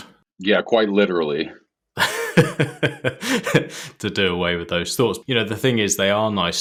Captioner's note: laughs